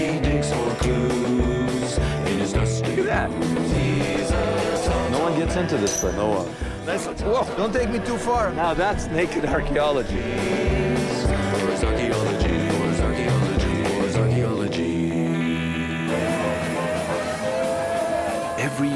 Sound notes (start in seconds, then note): 11.2 laughs; 16.5 lively band music